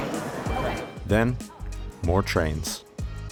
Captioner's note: voiceover